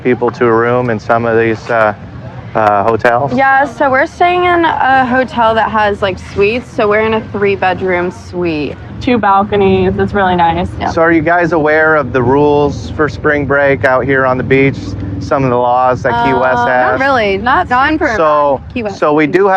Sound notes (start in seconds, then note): none